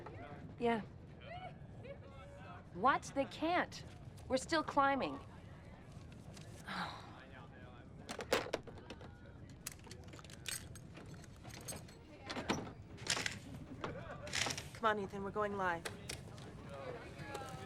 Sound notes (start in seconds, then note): 6.6 sighs